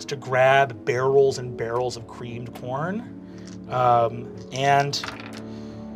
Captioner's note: dice clacking